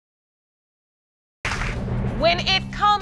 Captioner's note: audience clapping